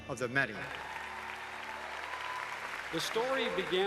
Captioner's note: applauses